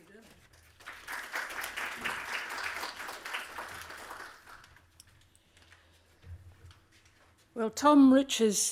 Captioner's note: applause